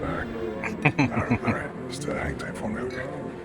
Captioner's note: chuckling